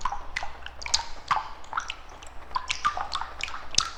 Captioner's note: dripping water continues